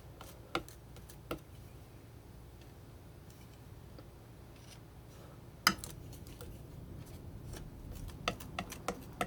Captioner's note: scratching